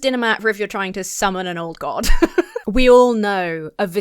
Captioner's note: laughs